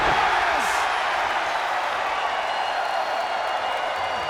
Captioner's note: audience cheers